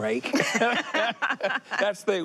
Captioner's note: both laughing